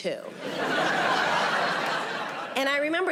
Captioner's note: audience laughing